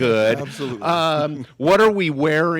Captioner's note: chuckles